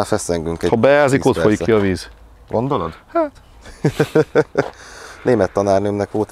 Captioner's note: haha